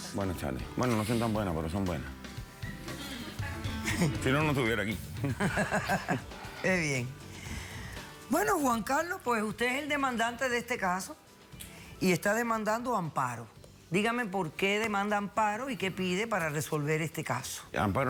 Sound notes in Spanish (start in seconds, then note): 2.1 Risas